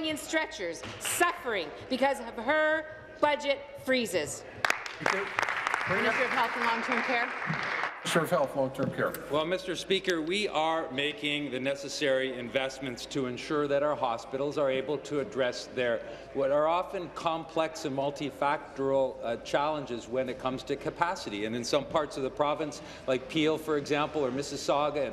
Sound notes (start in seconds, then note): 7.9 applause